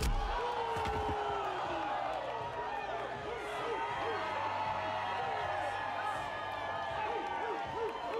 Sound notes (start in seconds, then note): 0.0 punching; 1.9 crowd cheering